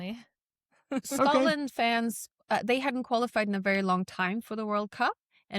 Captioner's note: chuckles